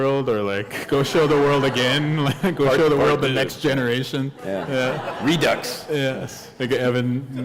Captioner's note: laughter; laughter